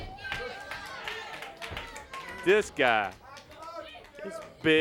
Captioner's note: crowd cheering